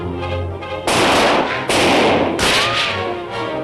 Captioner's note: gunshots